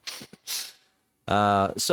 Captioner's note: laughing